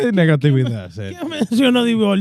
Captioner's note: speaking In Foreign Language